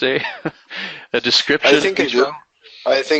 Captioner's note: chuckles